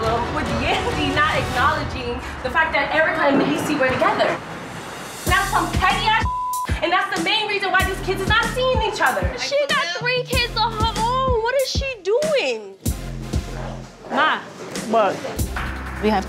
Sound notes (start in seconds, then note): 6.2 beep